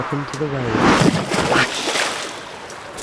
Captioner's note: splash